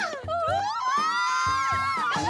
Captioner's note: screams